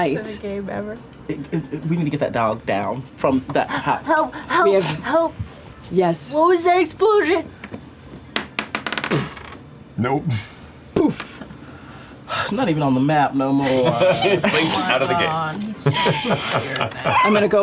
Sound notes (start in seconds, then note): 8.3 dice bouncing; 9.1 poof; 12.0 poof